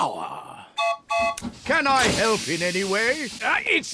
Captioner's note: toots horn